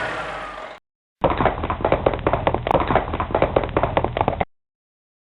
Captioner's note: semi Truck Starting; horse hoofs galloping